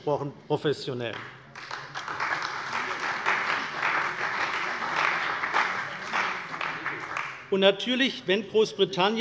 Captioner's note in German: Beifall bei der CDU und dem BÜNDNIS 90/DIE GRÜNEN